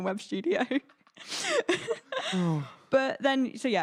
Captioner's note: both laughing